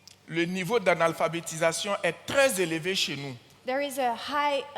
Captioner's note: continues in French